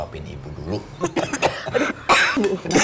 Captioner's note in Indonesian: Batuk